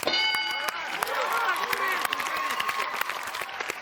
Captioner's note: cheers and applause